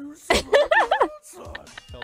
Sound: laughs

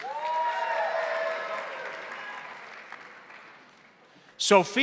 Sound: crowd applauding; crowd cheering

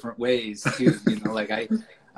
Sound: laughs

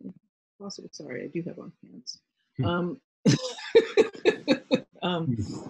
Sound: laughs

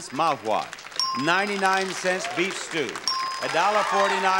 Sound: bell dinging; bell dinging

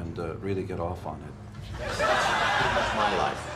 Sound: crowd laughs

